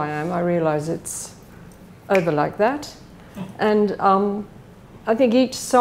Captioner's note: fingers snap